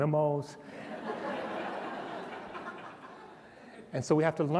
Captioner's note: laughter